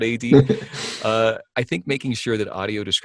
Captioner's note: laughs